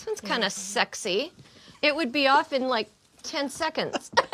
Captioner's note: all laugh